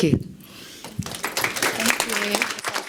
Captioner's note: audience applauds